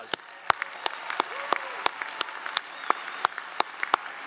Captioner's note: applause